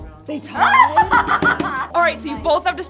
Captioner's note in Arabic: تضحك